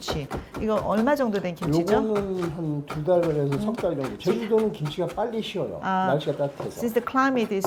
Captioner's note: speaking Korean